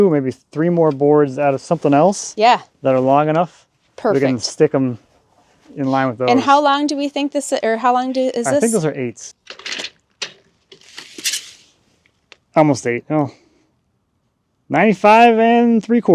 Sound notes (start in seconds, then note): 10.6 measuring tape rattling